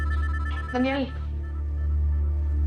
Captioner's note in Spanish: Suena el celular